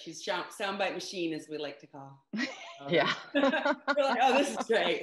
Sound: chuckles; laughs

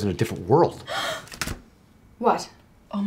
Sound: gasps

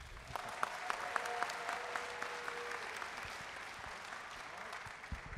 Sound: audience cheering and applauding

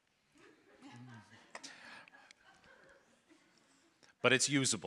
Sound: audience laughing

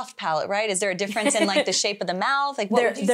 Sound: laughs

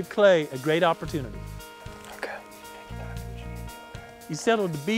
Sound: whispering

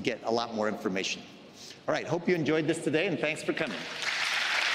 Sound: applause

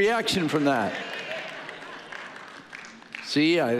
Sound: audience cheering and applauding

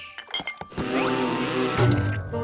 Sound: buzzing

